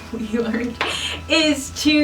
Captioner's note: laughs